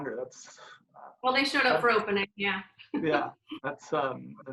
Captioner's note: laughs